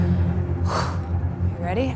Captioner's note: breathes deeply